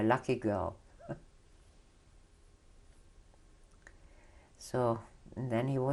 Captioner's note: laughs